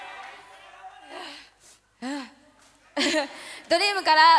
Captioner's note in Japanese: 笑い